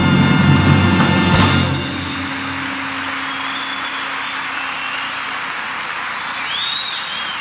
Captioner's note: audience cheering; audience applauding